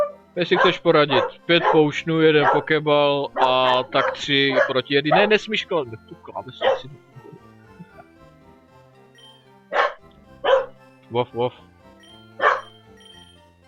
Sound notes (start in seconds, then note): 0.4 barks; 10.4 barks